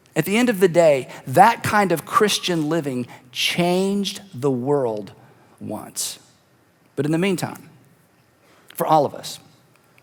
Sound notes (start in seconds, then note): none